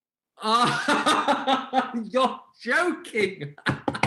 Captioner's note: Helmer laughing